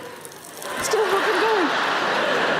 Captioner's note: chuckling; space dust crackling; audience laughing